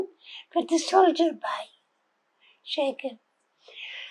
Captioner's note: hebrew